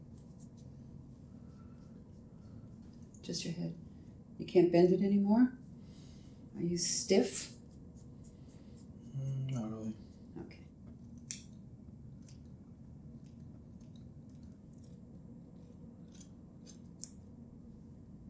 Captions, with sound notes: Just your head. You can't bend it anymore? Are you stiff? - Not really. (sheers snipping) - Okay. (sheers snipping)